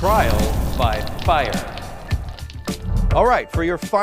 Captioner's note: fire crackling